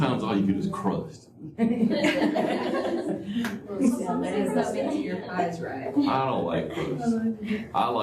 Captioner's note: laughter